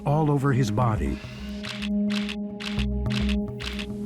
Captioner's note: camera shutters click